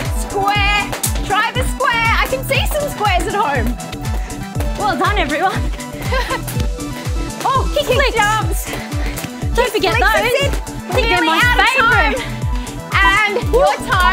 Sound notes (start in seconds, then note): 5.9 laughs